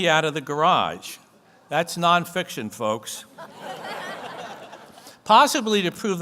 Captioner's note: audience laughs